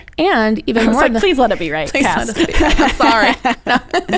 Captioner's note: laughs